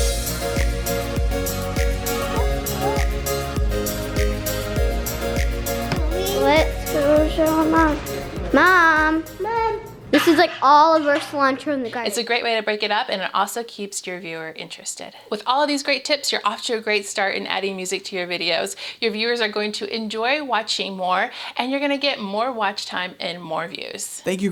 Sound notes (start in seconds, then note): 0.2 upbeat music; 5.9 kid mumbling